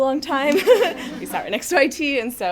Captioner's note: audience chuckles